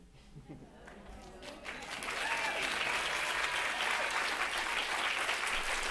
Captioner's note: audience cheering and applauding